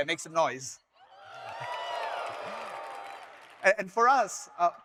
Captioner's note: audience members cheering